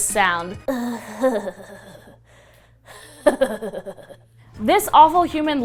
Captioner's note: strange laughter-like moaning